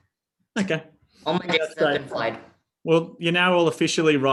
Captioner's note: voice cracking